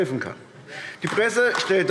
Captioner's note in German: Beifall AfD